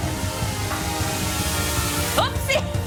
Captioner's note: drone rotors whining; laughs